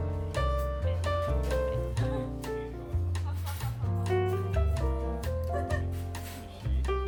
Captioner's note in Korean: 웃음